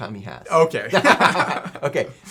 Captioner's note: laughing